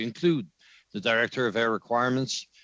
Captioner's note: speaking French